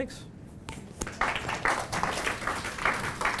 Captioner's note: applause